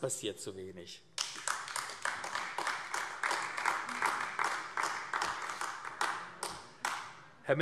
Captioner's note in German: Beifall AfD